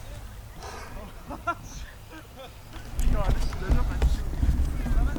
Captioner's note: giggles; beach goers talking